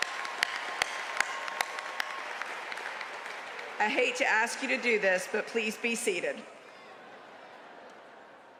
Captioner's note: cheers and applause